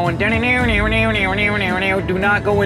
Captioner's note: mimicking banjo music